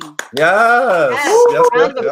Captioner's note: applauds